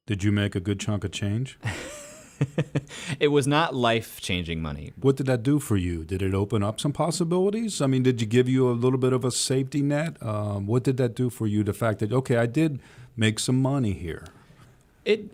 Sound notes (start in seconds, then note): 1.6 laughs